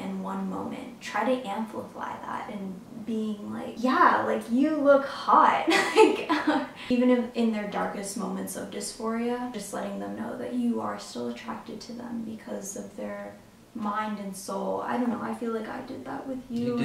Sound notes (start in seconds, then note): 6.0 laughs